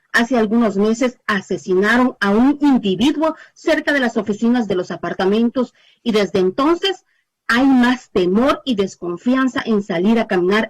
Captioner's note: speaking spanish